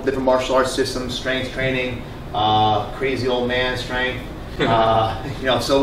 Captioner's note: laughter